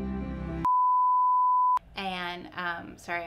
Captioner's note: electronic beeping